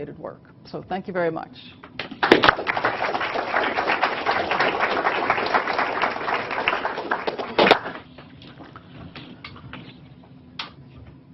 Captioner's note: applause